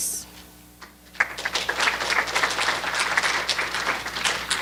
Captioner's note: applause